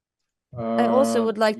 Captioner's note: non-english speech